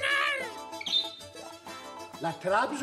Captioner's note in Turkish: Papağan sesi